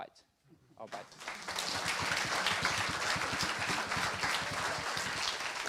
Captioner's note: applause